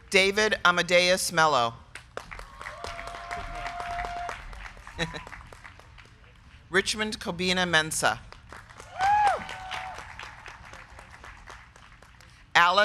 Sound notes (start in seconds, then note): 2.0 crowd clapping; 2.3 crowd cheering; 8.2 crowd clapping; 8.8 crowd cheering